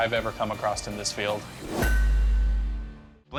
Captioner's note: ping